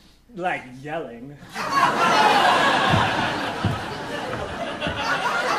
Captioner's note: audience laughing